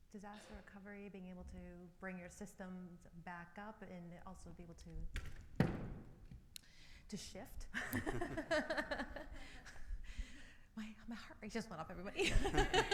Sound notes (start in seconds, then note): 7.7 laughs; 12.2 all laughing